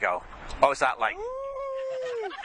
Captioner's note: he howls